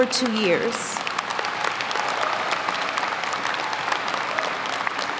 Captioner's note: audience applauding